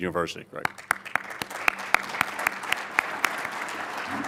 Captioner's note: audience applauds